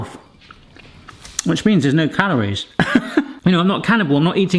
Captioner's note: laughs